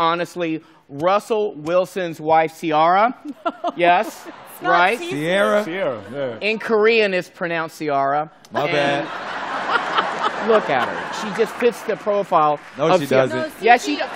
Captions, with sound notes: I'm thinking, honestly, Russell Wilson's wife, Ciara. - (LAUGHING) No. - Yes. - It's not Cici. - Ciara. Ciara, yeah. In Korean, is pronounced Ciara. My bad. And look at her. She just fits the profile. No, she doesn't. Yes, she does.